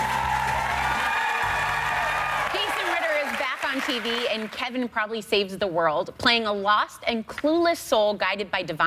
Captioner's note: applause